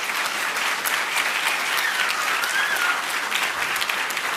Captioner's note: applause